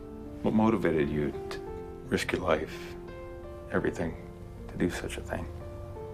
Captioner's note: voiceover